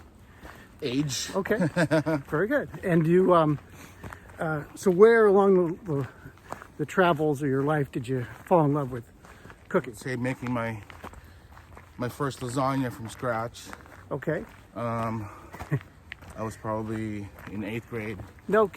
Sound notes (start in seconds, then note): 1.2 laughs